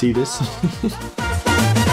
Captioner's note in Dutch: lacht